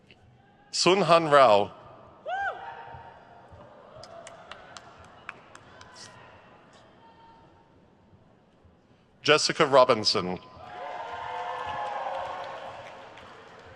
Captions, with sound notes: Sunhan Rao. (person cheers) Jessica Robinson. (crowd cheers)